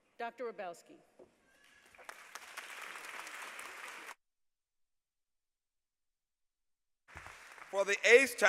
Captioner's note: applause